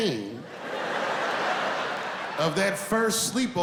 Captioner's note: laughing